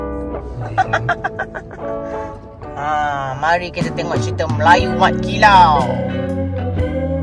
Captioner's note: laugh; background music